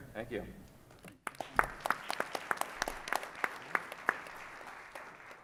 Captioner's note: audience applauds